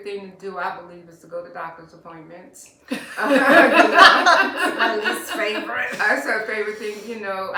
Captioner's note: laughter